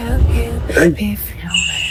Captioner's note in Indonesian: Menghela napas